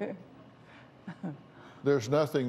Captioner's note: laughs